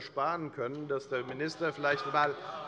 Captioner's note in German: Zurufe von der CDU